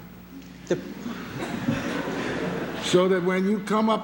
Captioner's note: laughter